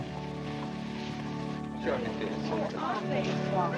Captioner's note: indistinct chatter